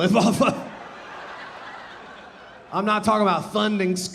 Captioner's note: audience laughing